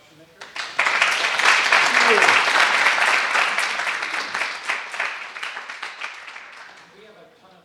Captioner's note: <i>Applause</i>